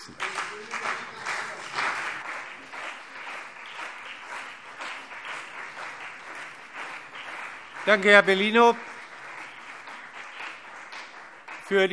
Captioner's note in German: Beifall CDU und BÜNDNIS 90/DIE GRÜNEN